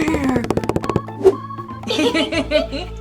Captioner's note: stampede; laughter